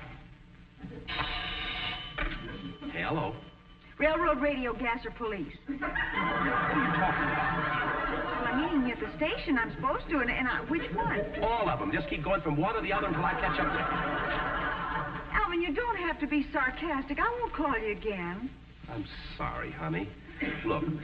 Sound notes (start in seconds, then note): 1.0 telephone ringing; 5.8 audience snickering; 16.1 audience laughing